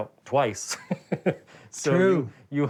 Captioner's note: laughs